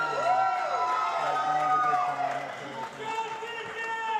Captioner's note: applause